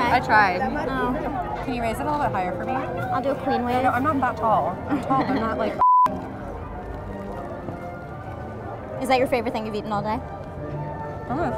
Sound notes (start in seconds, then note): 5.8 beep